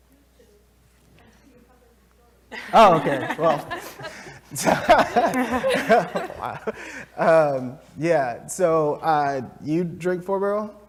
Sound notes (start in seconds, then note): 2.5 laugh